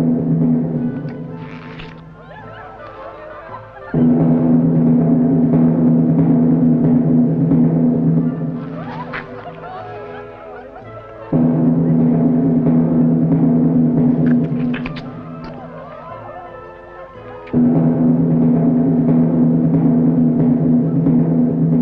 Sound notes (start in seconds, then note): 0.0 drums; 1.4 smack, slurp; 14.2 smack